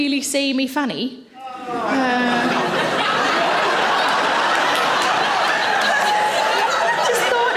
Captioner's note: man groans; audience laughing